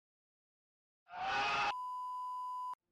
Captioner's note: enthusiastic screaming